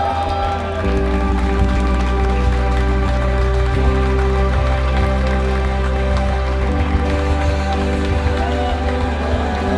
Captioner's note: audience applauding during the premiere of the Music Video